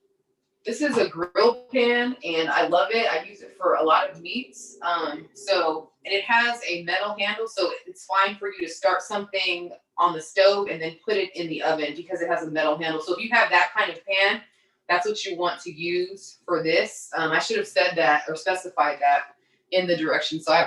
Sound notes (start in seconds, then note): none